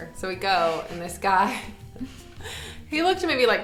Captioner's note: both laughing